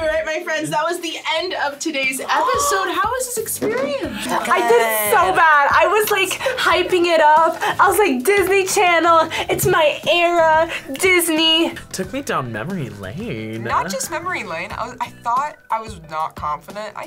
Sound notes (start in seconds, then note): 4.0 gasps